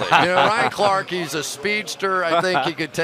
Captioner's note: laughter